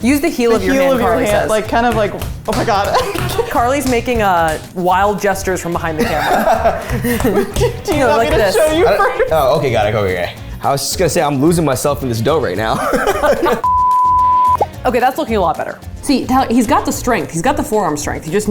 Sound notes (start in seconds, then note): 13.6 beep